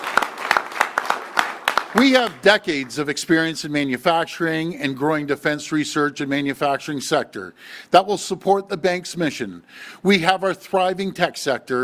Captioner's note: applause